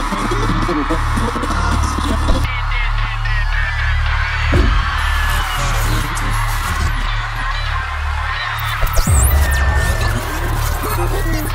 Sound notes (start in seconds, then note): 0.0 radio tuning